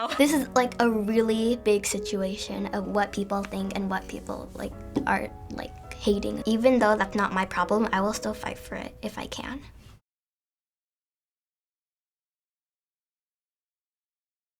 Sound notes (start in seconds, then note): 10.1 silence